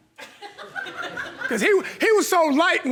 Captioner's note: audience laughing